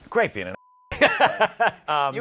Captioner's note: laughs